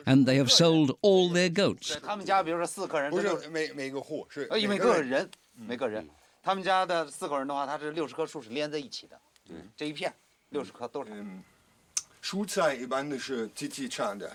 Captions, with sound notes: and they have sold all their goats. [men speaking Chinese]